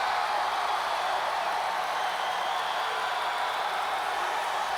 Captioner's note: crowd cheering continues